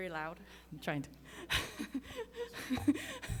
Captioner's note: laughs